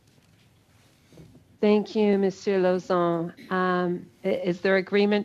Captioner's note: speaking French